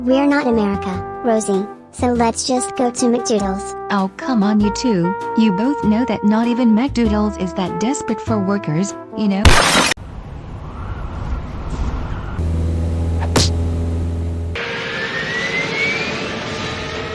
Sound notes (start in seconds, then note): 9.5 window break; 10.1 wind howling; 12.0 plane flying; 14.5 plane engine failing